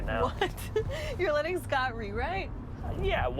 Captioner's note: laughs